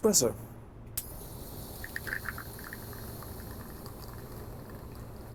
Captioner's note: coffee pouring